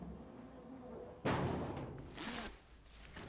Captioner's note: door bangs